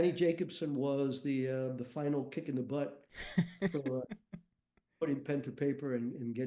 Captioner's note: chuckles